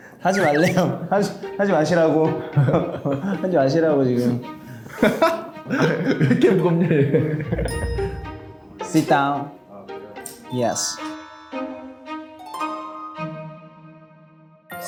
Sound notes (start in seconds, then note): 4.8 laughing